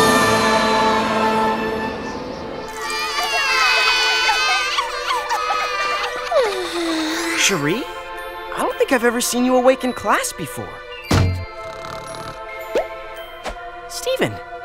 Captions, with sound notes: (CRYING) (YAWNS) SHARI, I DON'T THINK I'VE EVER SEEN YOU AWAKE IN CLASS BEFORE. (SNORING) STEVEN, I DON'T THINK I'VE EVER SEEN YOU